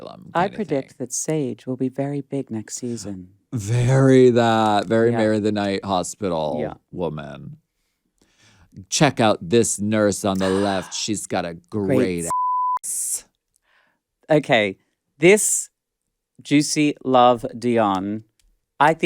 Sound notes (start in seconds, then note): 12.0 beep